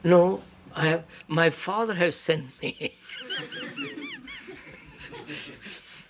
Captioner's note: laughs